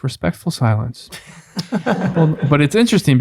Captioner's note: friars laugh